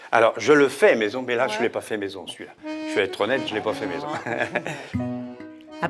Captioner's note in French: rires